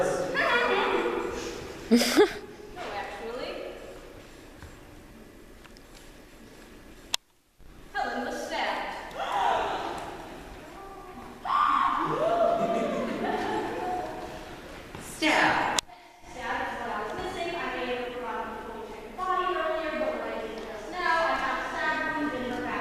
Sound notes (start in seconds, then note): 1.8 laughs; 9.9 gasps